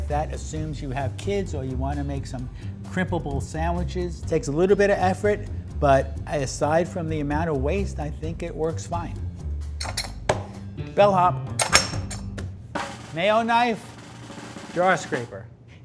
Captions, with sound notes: That assumes you have kids or you wanna make some crimpable sandwiches. It takes a little bit of effort, but aside from the amount of waste, I think it works fine. [cutter rattles] [hand slams] Bell hop. Mayo knife draw scraper.